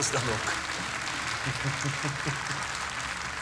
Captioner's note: chuckles